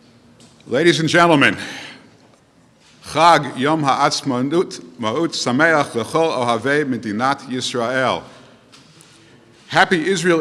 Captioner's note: speaking Hebrew